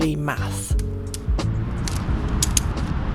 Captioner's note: click click click